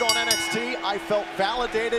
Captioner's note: bell ringing